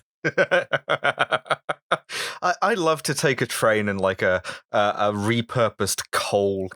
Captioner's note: laughter